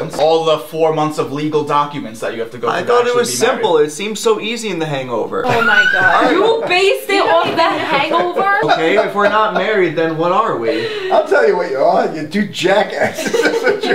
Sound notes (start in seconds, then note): 7.9 laughs